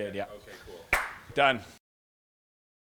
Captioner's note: claps hands